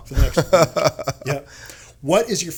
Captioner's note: laughing